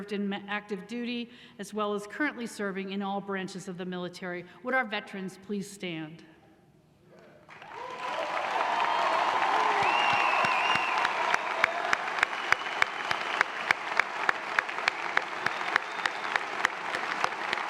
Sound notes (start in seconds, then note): 7.9 applause